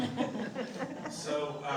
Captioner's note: laughing